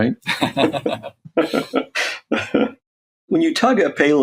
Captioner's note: laugh